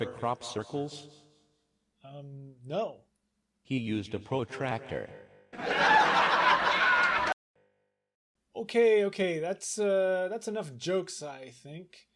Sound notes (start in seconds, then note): 5.5 laughter